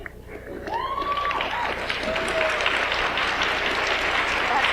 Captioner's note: audience applauds